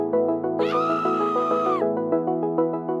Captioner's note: shriek